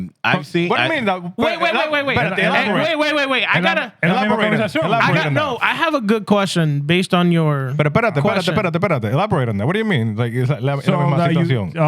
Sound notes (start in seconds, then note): 9.1 speaking Spanish; 10.8 speaking Spanish